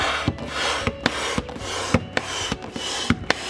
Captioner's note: air hissing